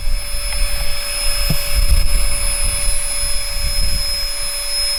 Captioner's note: noisy little pump noise